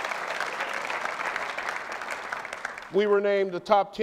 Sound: applause

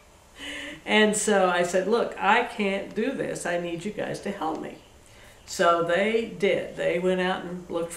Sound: laughs

